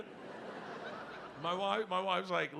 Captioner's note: audience laughing